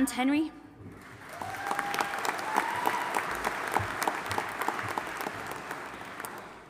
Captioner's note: audience applauding and cheering